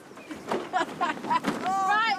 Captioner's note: laughs